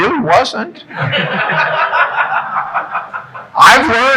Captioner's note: audience laughing